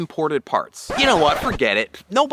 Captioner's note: record Scratch